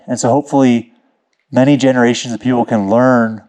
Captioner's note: none